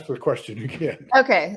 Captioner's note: laughs